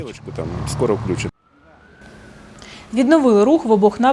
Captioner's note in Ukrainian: сирена швидкої